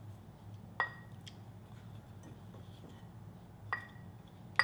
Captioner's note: spoon clinks